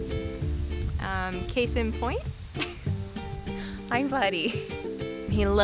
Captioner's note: laughing